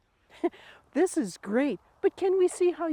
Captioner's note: chuckles